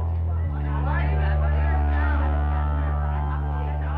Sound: kids clamoring

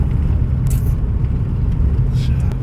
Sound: sucks teeth

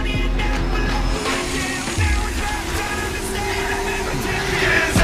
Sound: energy hums

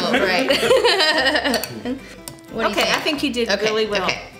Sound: laughing

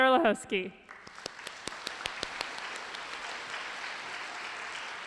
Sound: applause

